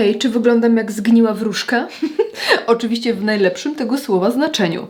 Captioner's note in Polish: śmiech